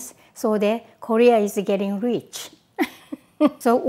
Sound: laughs

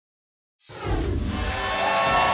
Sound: whoosh; applause and cheering

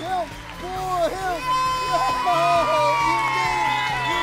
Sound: cheering

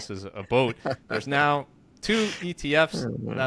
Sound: laughs

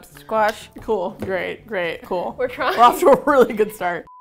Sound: laughs

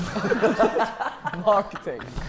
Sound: Sidemen laughing

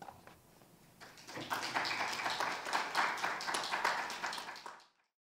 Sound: audience applauding

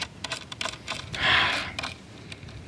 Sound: sigh

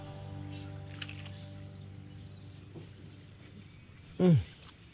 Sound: crunching

